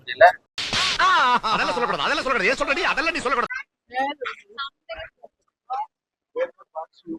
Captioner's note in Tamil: சிரிப்பு